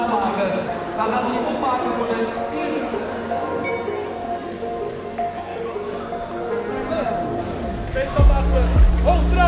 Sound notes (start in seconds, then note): 3.4 bell